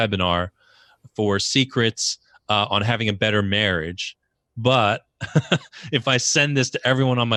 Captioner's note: laughs